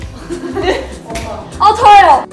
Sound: bursting out with laughter

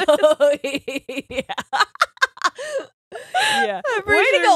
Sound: both laughing

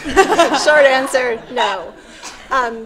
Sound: laughs

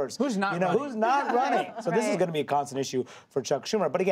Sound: laughter

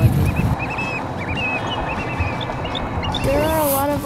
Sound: birds shrieking

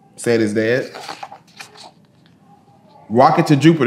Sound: pages rustling

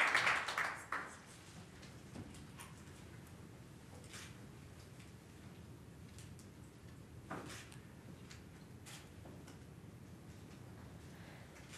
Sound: applause

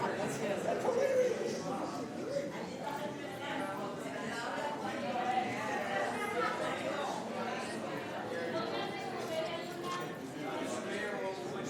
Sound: background chatter

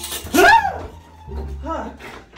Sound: screams

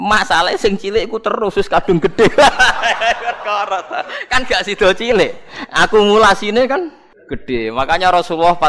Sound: laughs

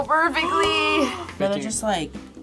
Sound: gasps

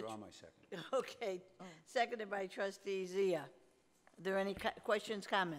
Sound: laughing

